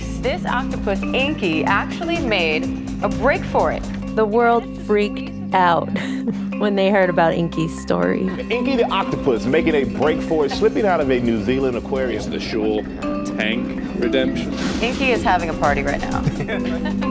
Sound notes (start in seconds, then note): 5.8 laughs